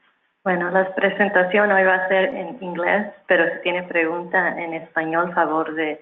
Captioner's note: speaking in foreign language